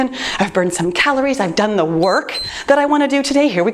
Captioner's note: timer beeps